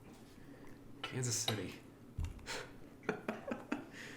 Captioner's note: laughs